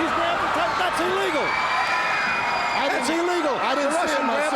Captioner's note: audience cheers